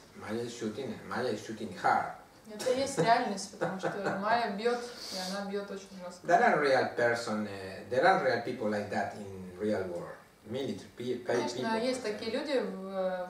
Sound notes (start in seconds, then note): 3.4 hahaha